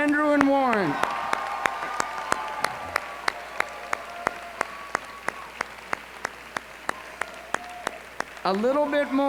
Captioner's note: applause